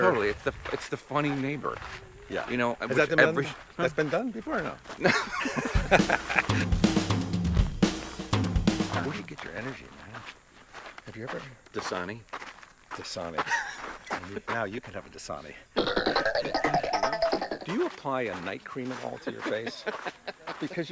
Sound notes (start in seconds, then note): 4.9 both laugh; 15.8 laughs